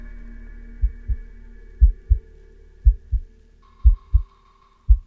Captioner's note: heart beating